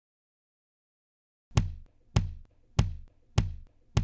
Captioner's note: simulated heart beat sound